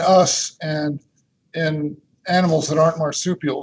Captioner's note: chuckles